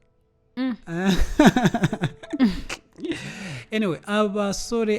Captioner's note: laughs